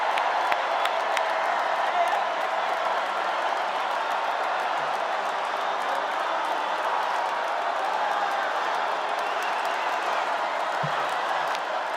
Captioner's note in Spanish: VíTORES